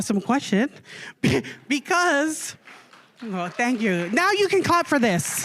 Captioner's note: applause